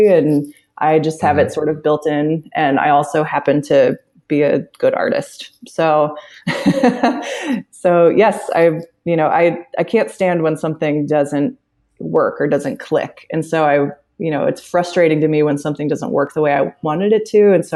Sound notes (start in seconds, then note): 6.4 laughs